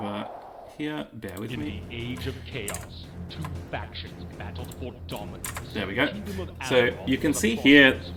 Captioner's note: voice-over